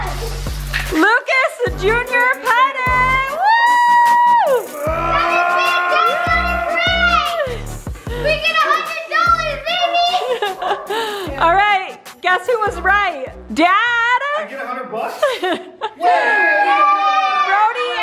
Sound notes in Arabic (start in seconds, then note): 3.2 هتاف; 9.7 يضحك; 16.0 هتاف